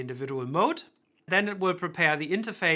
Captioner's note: cursor clicking